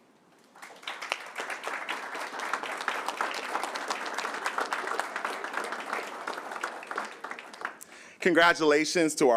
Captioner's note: applause